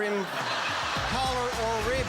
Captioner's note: laughter